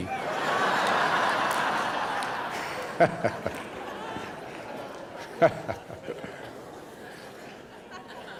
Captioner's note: laughter